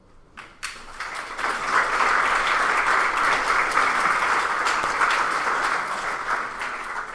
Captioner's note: applause